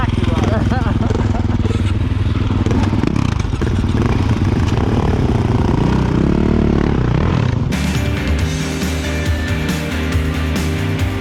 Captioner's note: laughter; engine Sounds